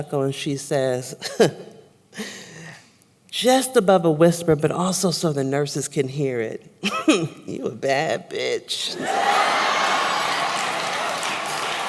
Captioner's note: applause